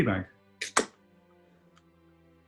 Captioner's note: opens can